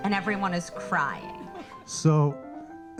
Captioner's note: audience laughing